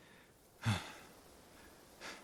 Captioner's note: sighing